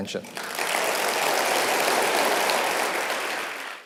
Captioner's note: audience applauding